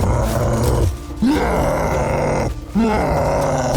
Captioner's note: roaring